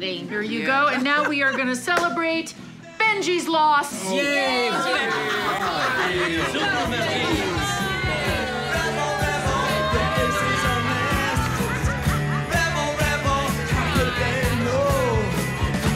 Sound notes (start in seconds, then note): 4.2 cheering, laughter